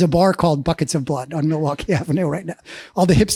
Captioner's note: laughs